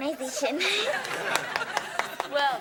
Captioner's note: audience laughing; Ethan applauds